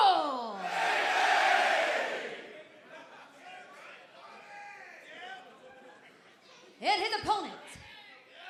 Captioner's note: crowd chatter